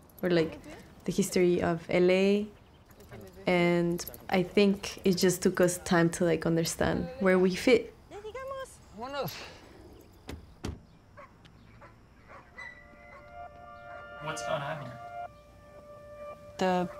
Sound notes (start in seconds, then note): 11.0 dogs barking in distance; 14.1 man in English